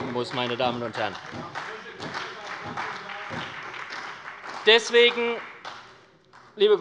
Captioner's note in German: Heiterkeit und Beifall bei der SPD - Zurufe von der CDU